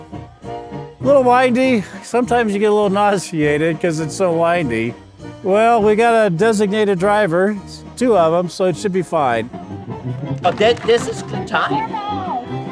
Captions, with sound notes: Little windy, sometimes you get a little nauseated because it's so windy. Well, we got a designated driver, two of them, so it should be fine. [ SLURRED SPEACH ] - This is the time,